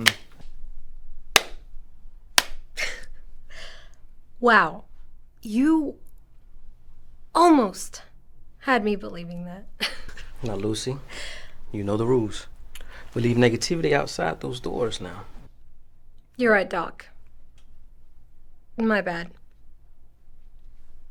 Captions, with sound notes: (Lucy claps) - (chuckles) Wow! You almost had me believing that. (chuckles) - Now, Lucy, you know the rules. We leave negativity outside those doors, now. - You're right, Doc. My bad.